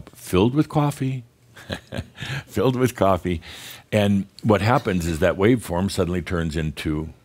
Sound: Adamus chuckles

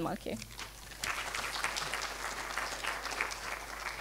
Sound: applause

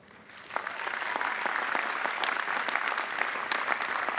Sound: audience applauding

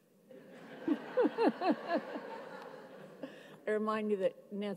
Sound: audience laughs

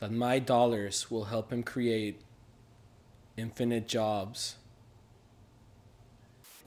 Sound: white noise

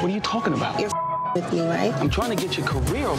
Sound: beeps

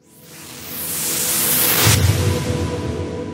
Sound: wooshing

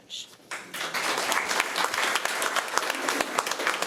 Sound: applause

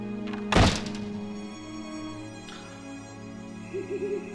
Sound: door slams

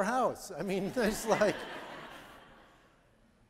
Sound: audience laughing

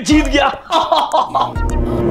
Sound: laughing

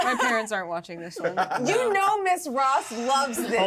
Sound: speaker laughs

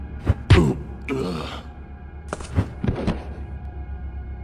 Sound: groaning sounds

